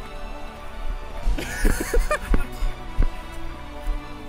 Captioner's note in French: Laughter